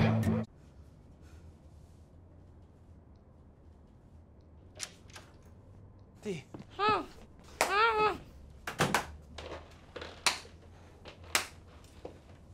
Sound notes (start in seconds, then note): 0.5 music stops; 4.8 door opens; 11.3 slow clapping